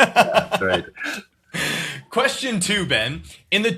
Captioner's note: laughing